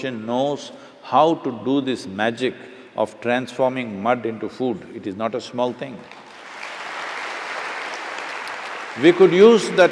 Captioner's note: applause